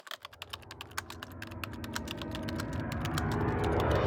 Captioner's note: typewriter sounds